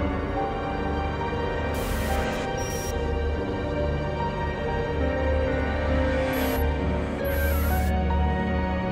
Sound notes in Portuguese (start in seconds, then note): 1.8 chiado